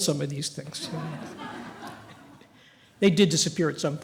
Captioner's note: laughter